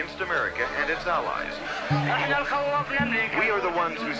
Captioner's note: man speaking Arabic